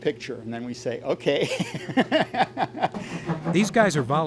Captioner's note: chuckles